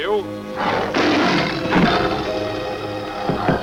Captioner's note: growling